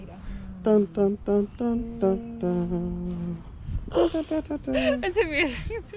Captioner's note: humming theme song